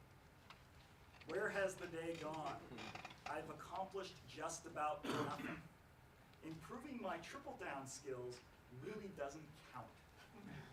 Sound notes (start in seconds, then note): 5.0 coughs; 10.5 laughs